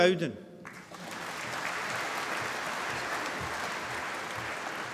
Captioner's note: applause